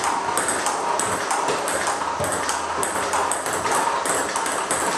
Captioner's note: ball ping pong hitting continues